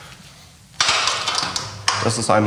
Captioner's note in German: Scheppern